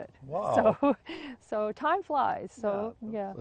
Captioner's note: laughs